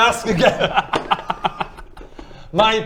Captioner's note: laughter